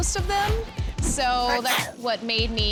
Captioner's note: sneezing